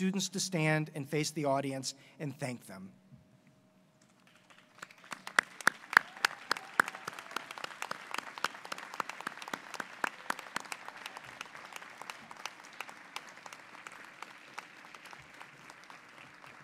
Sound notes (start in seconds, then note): 4.1 applause